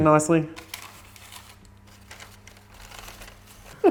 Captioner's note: laughing